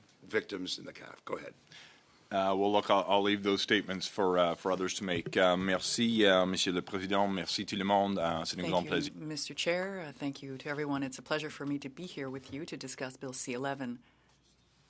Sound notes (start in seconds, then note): 12.6 speaking French